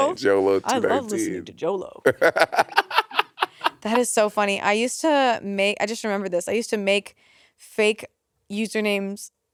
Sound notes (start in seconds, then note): 2.0 Monét laughing